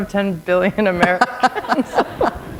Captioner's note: laughter